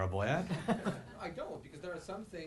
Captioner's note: audience laughing